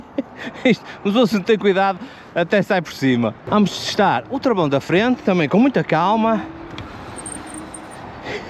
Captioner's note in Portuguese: risadas